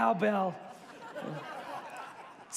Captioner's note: congregation laughs